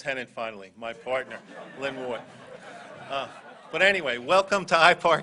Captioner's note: laughter